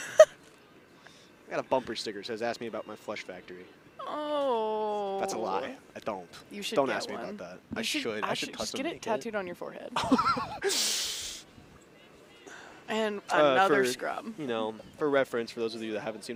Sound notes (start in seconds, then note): 0.0 chuckles; 10.0 laughs